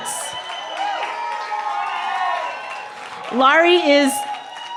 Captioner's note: cheering